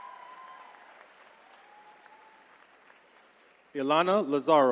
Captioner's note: attendees cheering